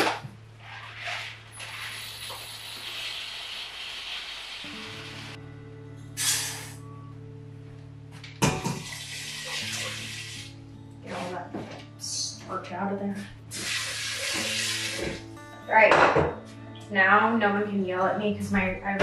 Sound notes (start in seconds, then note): 1.6 rice pouring; 4.8 gentle music; 4.8 rice pouring; 8.7 water pouring; 13.5 water pouring